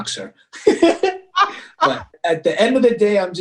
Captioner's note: chuckles